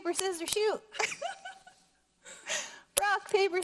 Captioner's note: laughing